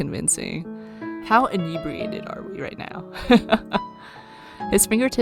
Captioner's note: laughs